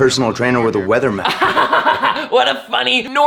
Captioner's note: laughs